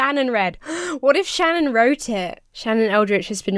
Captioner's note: gasps